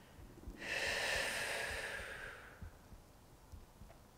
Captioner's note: exhaling breath